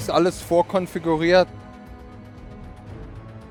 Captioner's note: German